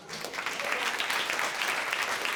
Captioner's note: applause